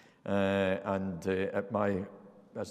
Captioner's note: none